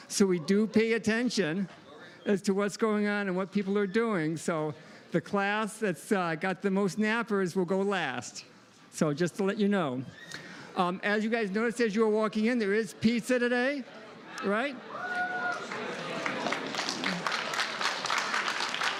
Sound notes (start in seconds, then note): 14.8 cheering, applause